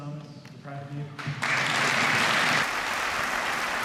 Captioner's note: applause